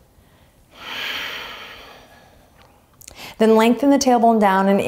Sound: exhaling strongly

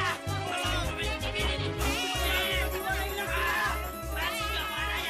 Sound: clamoring

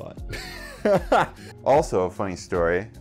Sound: laughs

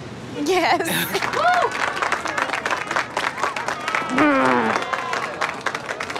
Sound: all cheering and applauding

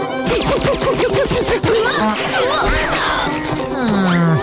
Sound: grunting

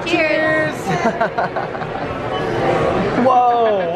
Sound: laughs

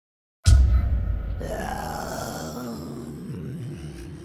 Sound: creepy reptilian moan

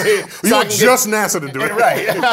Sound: laugh

